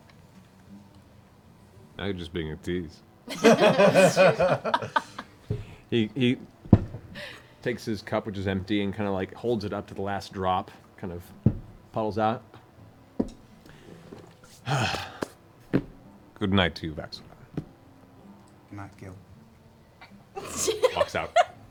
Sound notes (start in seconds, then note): 3.2 laughter; 14.5 sighs